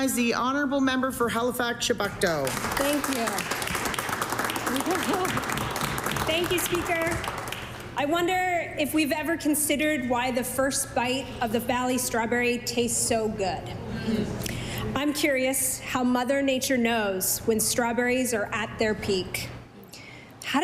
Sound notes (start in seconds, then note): 6.0 applause